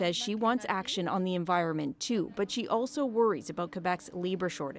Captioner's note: speaking French